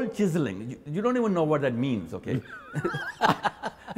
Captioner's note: laughs